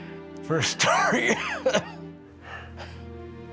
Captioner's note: coughing